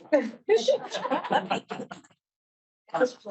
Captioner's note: all chuckles